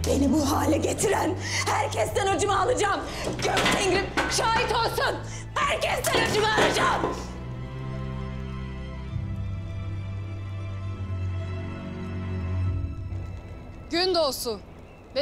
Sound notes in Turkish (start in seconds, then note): 3.2 Çarpma sesleri; 6.0 Düşme sesleri